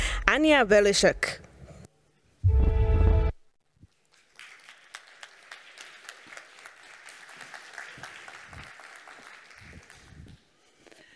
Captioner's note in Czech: Potlesk